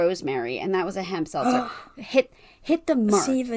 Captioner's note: gasp